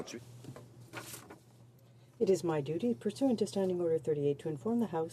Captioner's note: speaking French